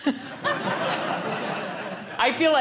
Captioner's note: audience laughing